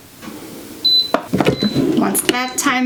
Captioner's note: heat press bleeps